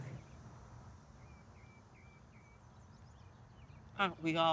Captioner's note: birds chirping